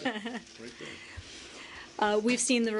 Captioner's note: laughter